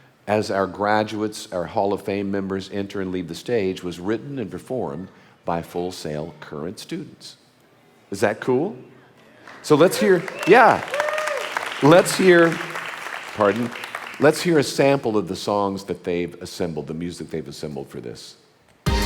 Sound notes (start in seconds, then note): 11.3 audience applauding